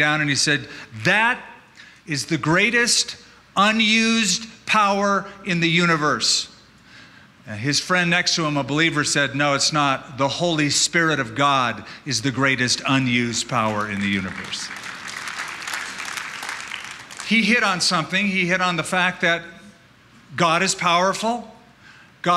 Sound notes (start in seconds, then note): 13.6 applause